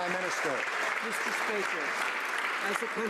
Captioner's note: some Applause